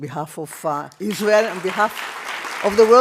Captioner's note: audience applause